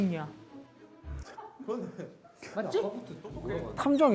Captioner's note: laughing